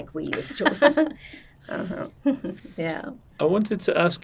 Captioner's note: laughing